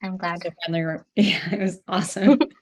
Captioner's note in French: rires